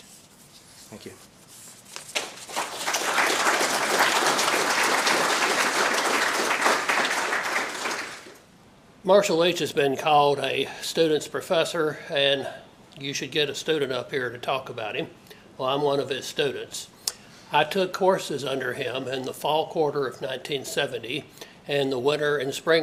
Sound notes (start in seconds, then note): 2.1 applause